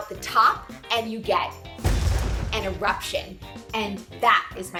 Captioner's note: volcano booming